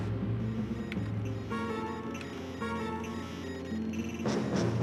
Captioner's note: radar beeps